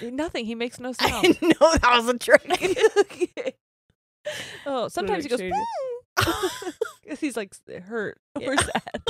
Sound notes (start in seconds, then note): 2.5 both laughing; 5.4 whines